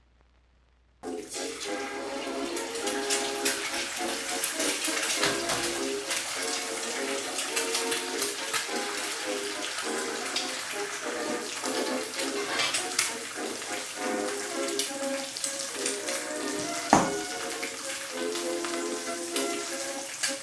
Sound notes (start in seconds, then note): 1.3 jaunty music; 3.3 sizzling